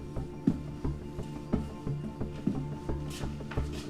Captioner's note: dramatic music continues; footsteps tapping